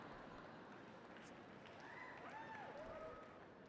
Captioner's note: laughter and applause